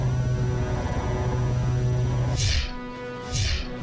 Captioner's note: air whooshes